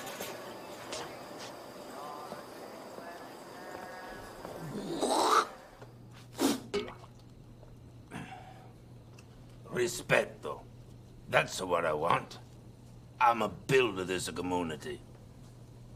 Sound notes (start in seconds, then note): 4.4 clearing throat; 6.1 splosh; 6.2 spit